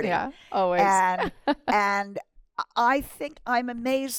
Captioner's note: laughter